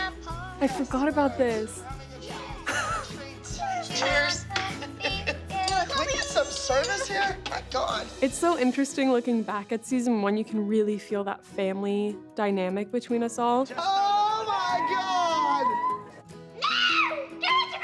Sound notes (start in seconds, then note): 16.5 girls exclaiming